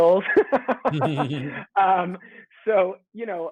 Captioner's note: joyful laughter